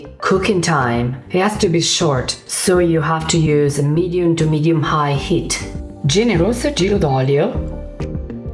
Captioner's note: speaking Italian